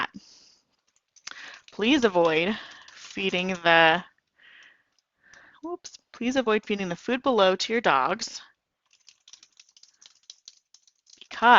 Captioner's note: typing